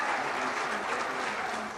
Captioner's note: crowd cheering